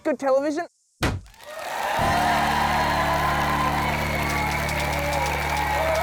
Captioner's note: cheering and applause